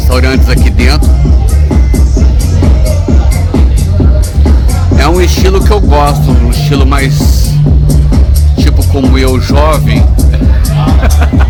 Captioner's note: laughs